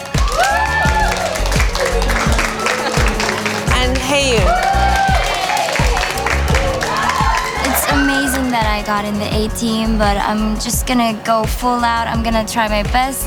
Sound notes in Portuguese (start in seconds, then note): 0.2 Aplausos; 6.6 Gritos